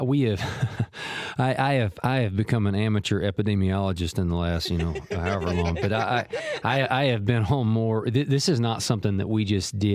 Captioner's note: laughs